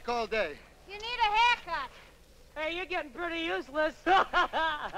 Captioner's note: laughs